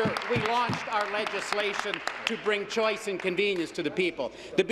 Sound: applause

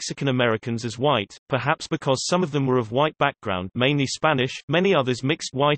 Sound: mainly Spanish

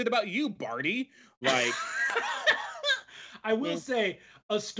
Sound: laughs

